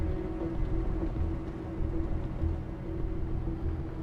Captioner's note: none